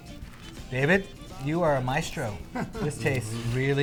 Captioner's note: laughter